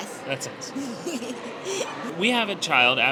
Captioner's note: laughs